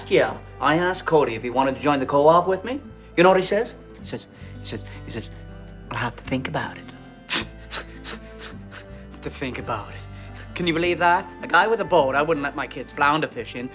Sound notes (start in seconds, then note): 7.2 scoffing